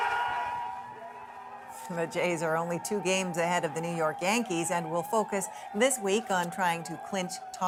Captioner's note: cheers and Applause